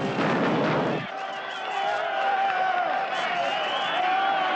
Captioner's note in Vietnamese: Tiếng reo hò cổ vũ